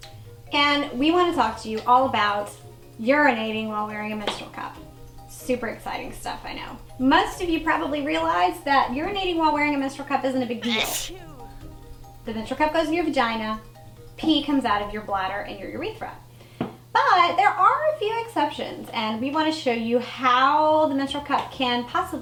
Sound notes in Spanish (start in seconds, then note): 10.6 estornudo